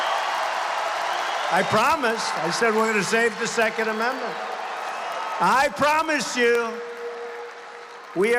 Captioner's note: applause